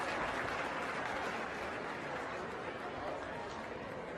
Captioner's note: crowd murmuring